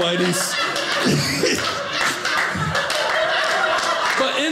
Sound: audience laughing

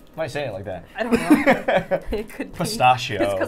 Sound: laughing

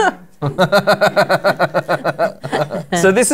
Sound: laughter

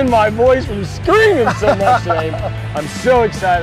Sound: chuckles

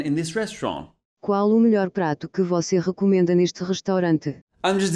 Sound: WT2 Edge translating in Portuguese

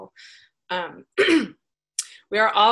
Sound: clears throat

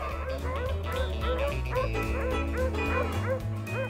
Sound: dogs barking

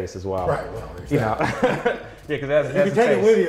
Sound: laughs

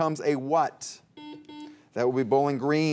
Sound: buzzer beeps

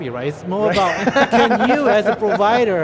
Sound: laughs

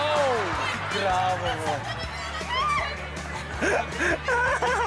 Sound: indistinct chatter; laughter

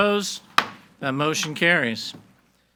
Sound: gavel bangs

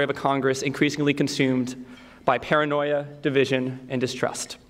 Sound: none

